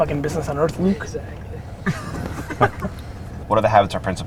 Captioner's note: group laughter